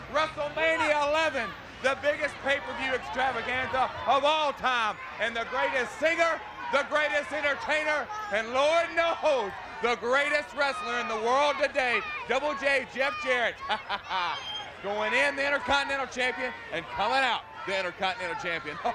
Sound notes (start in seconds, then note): 13.5 chuckles